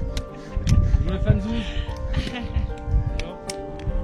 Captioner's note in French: rires; rires, encore